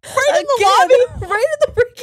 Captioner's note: laughs